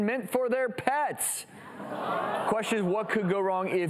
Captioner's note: audience murmuring